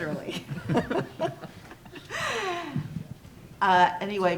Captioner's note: laughing